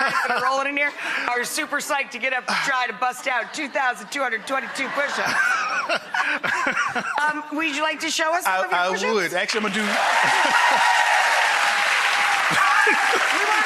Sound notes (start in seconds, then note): 4.4 laughs; 9.4 audience applause; 9.5 laughs